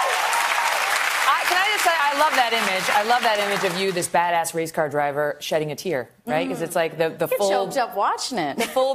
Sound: applause

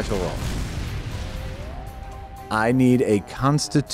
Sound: VFX Explosions

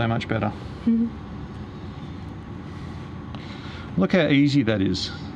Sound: giggles

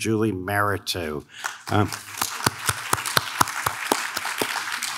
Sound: audience claps

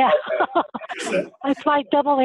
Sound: laughter

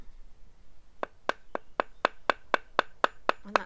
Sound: tapping sound

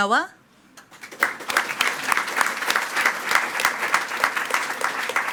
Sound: attendees clapping

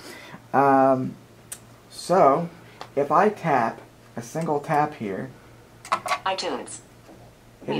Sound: ipad computer voice talks, "itunes"

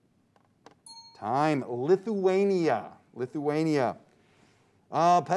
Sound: timer dings

